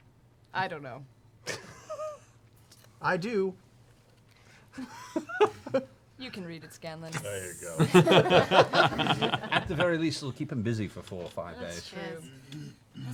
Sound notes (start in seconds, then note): 1.5 laughs; 7.7 laughter